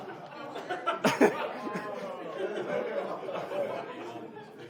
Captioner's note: audience laughs